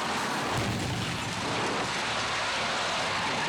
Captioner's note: car crashing; tires skidding